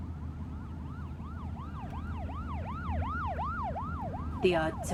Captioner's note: siren wailing